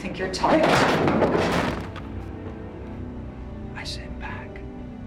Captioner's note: table clattering